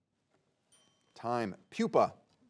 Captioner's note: bell dings